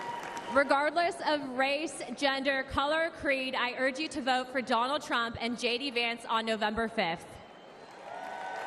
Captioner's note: applause